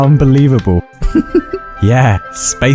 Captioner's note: genuine giggle